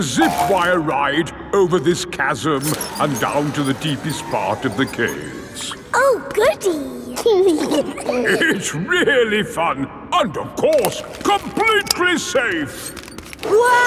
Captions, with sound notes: It's a Zip Wire ride over this chasm and down to the deepest part of the caves! Oh Goody! (GIGGLING) It's really fun! And of course, completely safe.